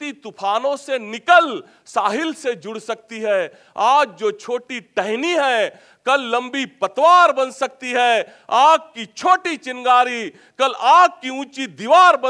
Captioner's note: reciting a Hindi poem